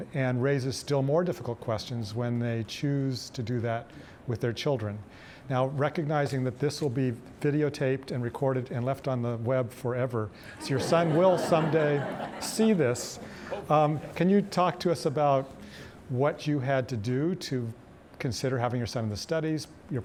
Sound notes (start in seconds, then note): 12.5 audience laughing